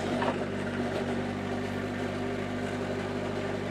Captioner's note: engine revving